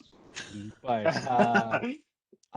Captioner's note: laughter